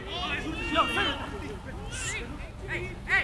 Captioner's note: players shouting